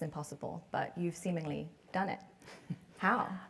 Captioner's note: laugh